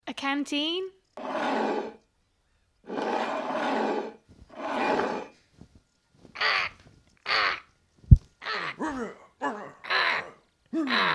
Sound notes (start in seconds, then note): 2.8 scraping sounds; 7.2 crow cawing; 8.7 grunting and mumbling